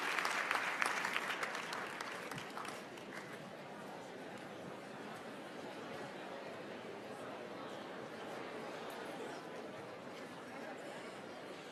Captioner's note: applause